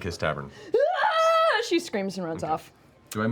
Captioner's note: yelling